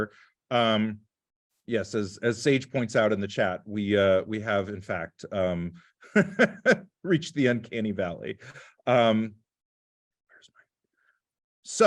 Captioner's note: laughter